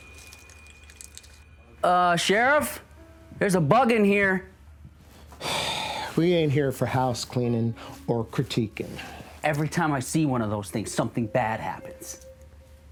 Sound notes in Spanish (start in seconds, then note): 0.0 insectos deslizándose; 5.6 El sheriff suspira